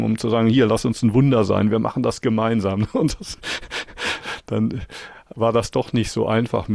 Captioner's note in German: gelächter